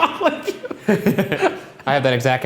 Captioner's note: laughter